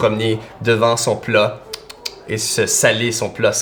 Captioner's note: small taps